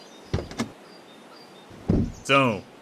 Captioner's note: car door opens, then closes